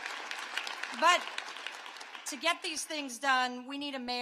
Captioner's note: applause